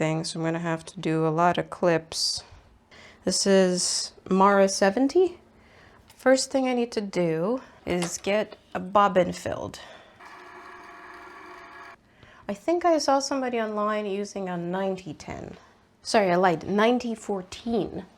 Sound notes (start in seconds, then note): 10.1 whirring noise